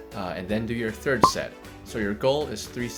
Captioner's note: popping